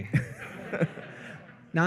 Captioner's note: laughter